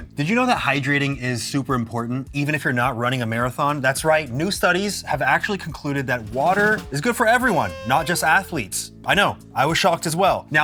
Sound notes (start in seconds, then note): none